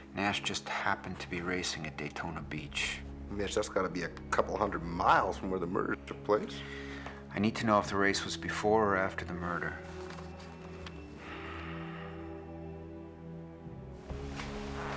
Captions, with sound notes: Nash just happened to be racing at Daytona Beach. - Mitch, that's gotta be a couple hundred miles from where the murder took place. I need to know if the race was before or after the murder. (dramatic music) (sighing)